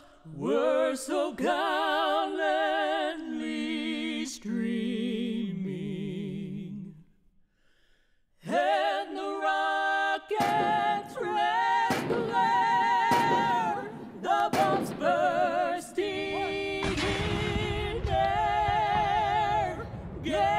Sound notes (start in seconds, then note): 12.5 21 gun salute; 18.4 bombs bursting